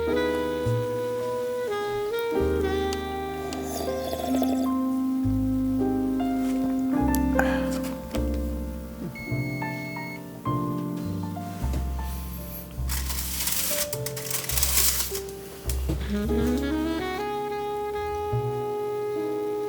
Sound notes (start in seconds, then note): 2.6 very loud slurping; 7.3 satisfied exhale; 9.0 oven beeps